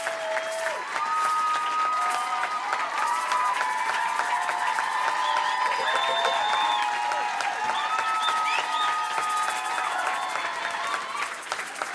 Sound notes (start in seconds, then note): 4.0 applause and cheering continue